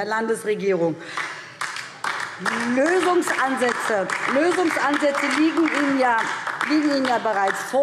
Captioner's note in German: Beifall DIE LINKE